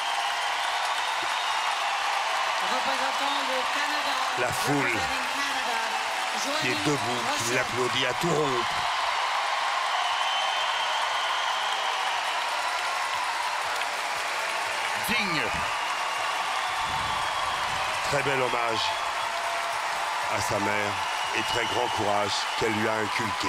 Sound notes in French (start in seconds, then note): 0.1 acclamations; 8.9 acclamations; 16.4 acclamations